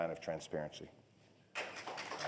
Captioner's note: applause